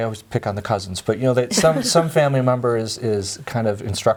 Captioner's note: laughs